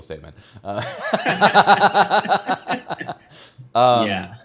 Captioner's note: both laughing